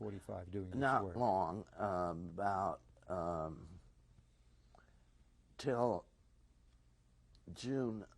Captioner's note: pauses for 3 seconds